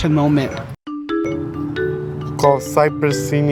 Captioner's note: phone chiming